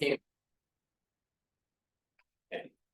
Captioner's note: silence